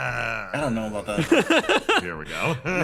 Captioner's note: laughs